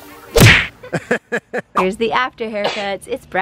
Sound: laughing

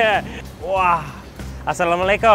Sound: speaks in foreign language

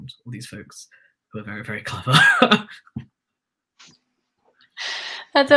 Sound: chuckles

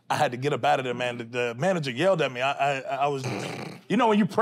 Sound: snorts

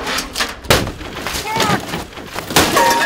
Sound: loud crash

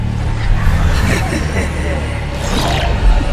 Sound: malzahar laughs

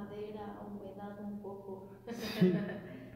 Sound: laughter

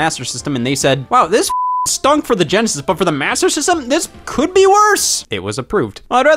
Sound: beep

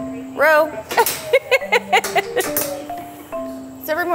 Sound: giggles

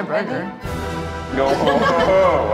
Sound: cast laughs

